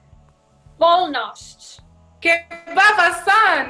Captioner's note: speaking in foreign language